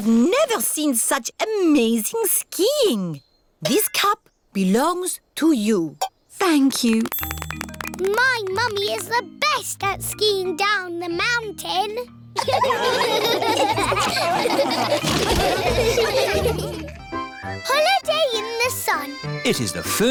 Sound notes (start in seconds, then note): 12.4 laughter